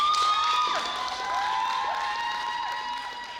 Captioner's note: audience applauding